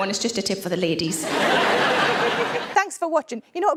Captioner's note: audience laughs